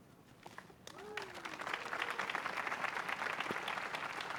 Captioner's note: applause